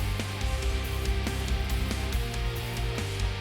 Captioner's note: none